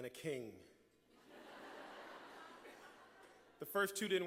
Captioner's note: laughter